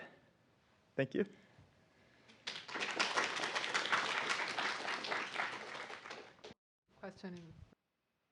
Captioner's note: applauses